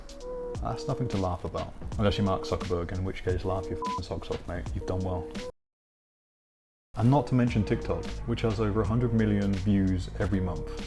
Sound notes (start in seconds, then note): 3.7 beep